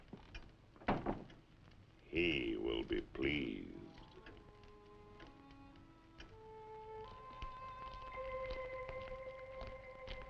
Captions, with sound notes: (door thudding) - He will be pleased. (slow eerie music)